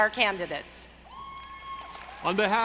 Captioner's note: audience cheering; audience applauding